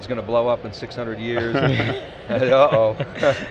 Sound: laughter

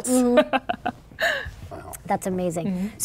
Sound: laughing

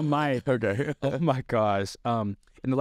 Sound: laughs

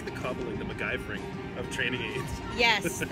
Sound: laughs

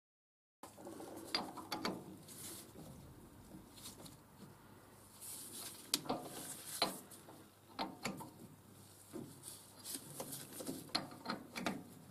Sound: mechanical noise

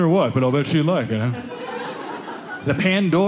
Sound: audience laughing

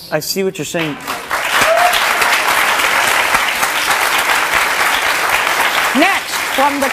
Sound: audience cheering and clapping

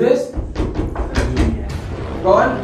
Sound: door knocking

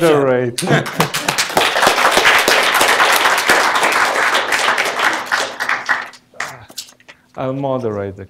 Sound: applause

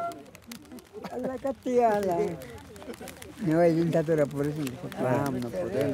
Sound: speaking in foreign language

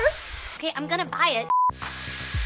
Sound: TV beeps; upbeat music

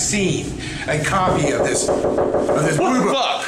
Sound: knocking

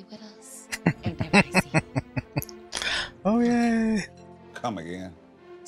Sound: laughing

